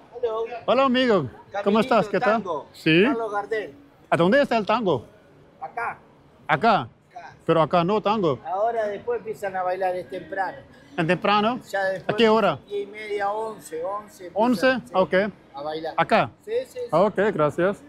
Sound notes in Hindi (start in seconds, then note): 1.5 स्पेनिश में बोलना